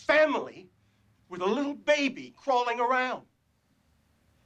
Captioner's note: none